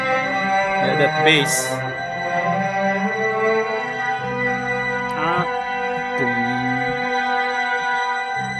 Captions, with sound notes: That Bass. (Bass Guitar) Ahh. *imitates sound*